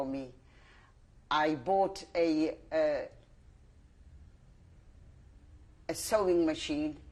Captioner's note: pauses for 3 seconds